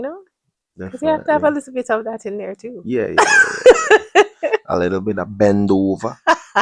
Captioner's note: laughter